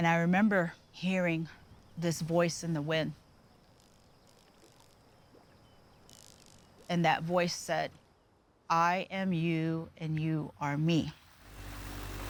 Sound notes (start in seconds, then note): 4.2 birds singing, insects buzzing, frogs croaking; 11.2 engine running